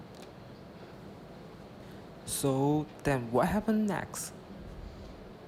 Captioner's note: voiceover